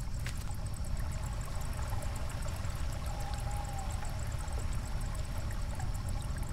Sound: insects continue to chirp; water continues to trickle

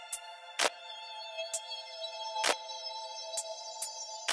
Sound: clapping on beat

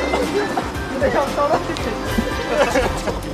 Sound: swoosh

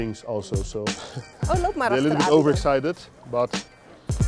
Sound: foreign Language

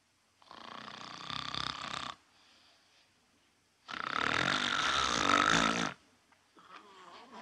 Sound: snoring

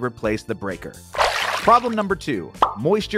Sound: water splashing

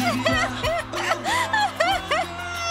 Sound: crying

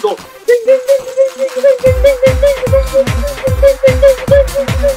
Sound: incoherent dinging

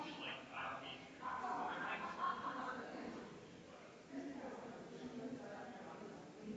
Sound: people chattering distantly continues

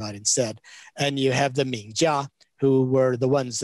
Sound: speaks in Chinese

